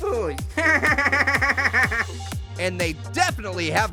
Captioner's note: Orange laughing